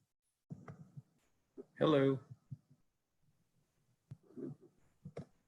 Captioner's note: silence